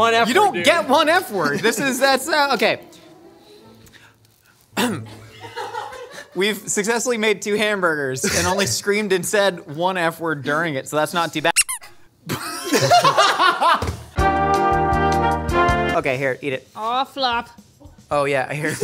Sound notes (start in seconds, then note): 5.1 laughing; 11.5 squeak; 12.3 laughing